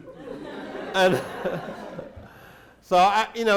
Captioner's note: laughter